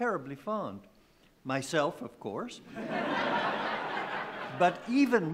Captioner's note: laughing